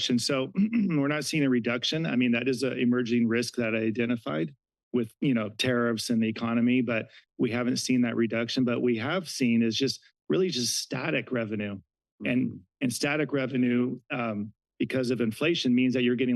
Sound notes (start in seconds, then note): none